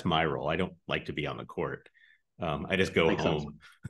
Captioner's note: laughs